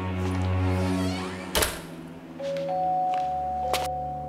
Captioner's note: door creaking